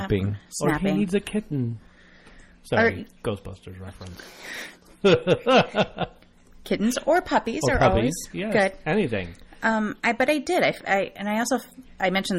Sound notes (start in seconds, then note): 5.0 DJ laughs